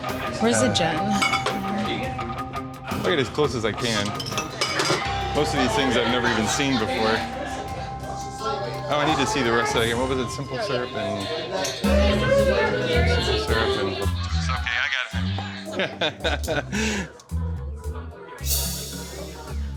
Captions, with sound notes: Where's the gin? - I'll get it as close as I can. Most of these things I've never even seen before. Oh, I need to see the recipe. What was it, simple syrup and? (bar customers chattering) It's okay, I got it. (laughs) (playful jazzy music)